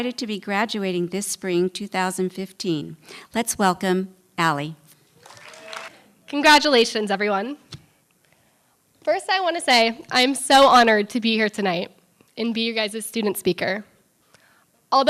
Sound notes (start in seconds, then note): 5.2 applause